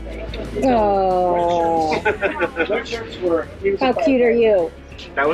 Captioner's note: chuckling